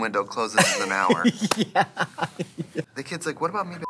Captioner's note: Katya laughs